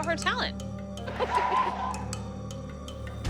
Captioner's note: giggles